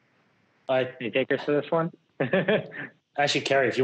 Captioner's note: laughs